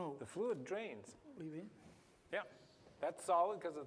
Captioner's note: non-english